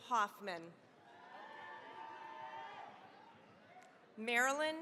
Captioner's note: cheering, applause